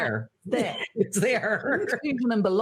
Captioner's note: laughing